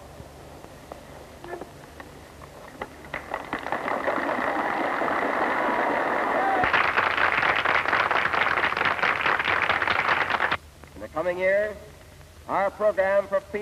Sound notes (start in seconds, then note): 3.1 applause